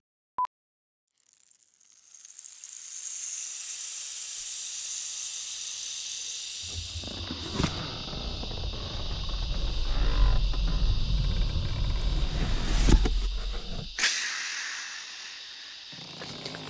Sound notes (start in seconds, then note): 0.5 beep; 2.5 crickets hissing; 7.4 box opens; 13.8 exhales